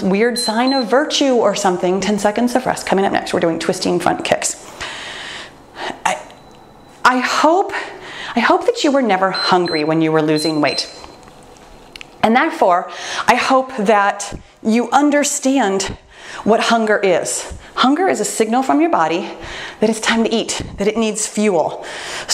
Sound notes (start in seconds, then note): 10.2 timer beeps